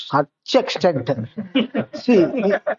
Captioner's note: laughs